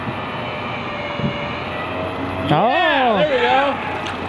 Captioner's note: machine operating